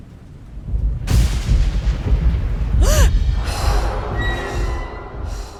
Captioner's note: big thunder sounds